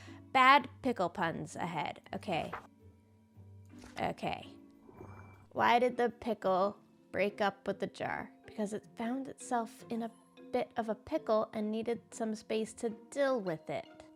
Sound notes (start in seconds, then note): none